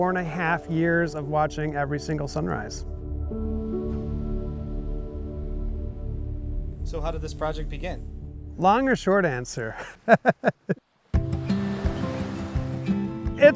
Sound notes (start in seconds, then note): 9.7 laughs